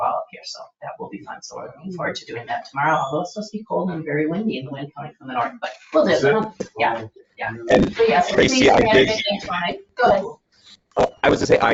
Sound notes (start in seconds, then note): 7.4 people chattering